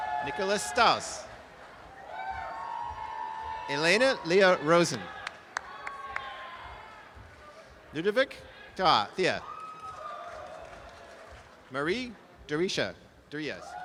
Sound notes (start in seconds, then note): 2.4 audience applause; 5.1 applause and cheering; 9.3 applause and cheering